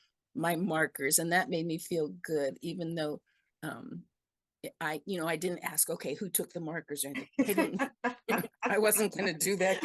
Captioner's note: laugh